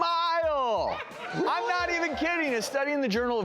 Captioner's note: audience cheers